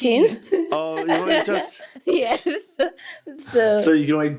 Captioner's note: laughing